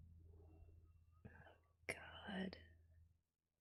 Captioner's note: whispers